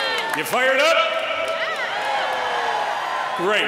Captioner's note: applause